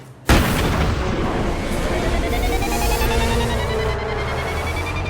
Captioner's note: explosion echoing